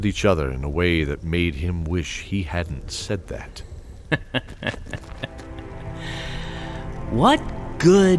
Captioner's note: sarcastic chuckle